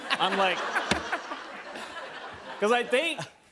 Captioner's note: laughter